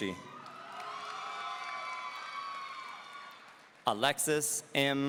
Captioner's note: audience cheering